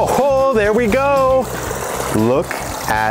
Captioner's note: water burbling